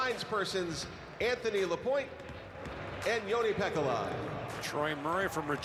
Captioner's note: cheering and Applause